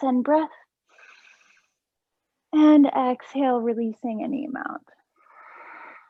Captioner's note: inhaling; exhaling